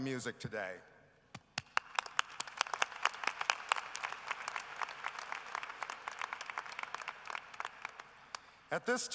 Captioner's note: applause